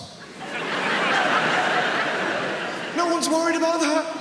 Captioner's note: audience laughs